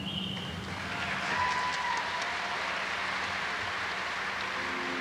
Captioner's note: audience applauds